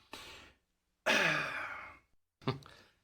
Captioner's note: sigh